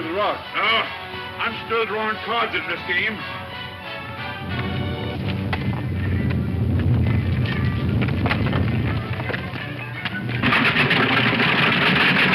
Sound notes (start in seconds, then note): 4.0 rock rumbles